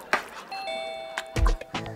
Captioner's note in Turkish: Kapı zili sesi